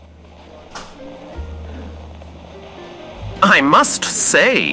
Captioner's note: tapas bar crowd fx, jazz music